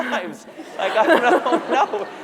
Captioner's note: laughter